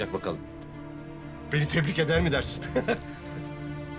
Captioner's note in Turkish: Gülme sesi